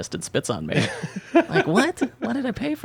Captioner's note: laughing